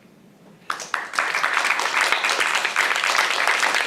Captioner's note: applause